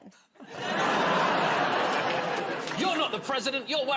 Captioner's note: laughter